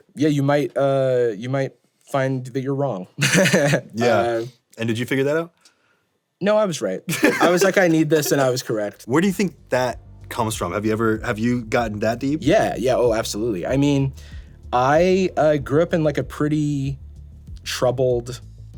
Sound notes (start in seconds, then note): 3.2 laughs; 7.1 laughing